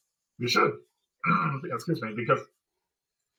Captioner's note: throat-clearing